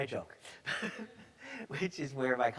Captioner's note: chuckles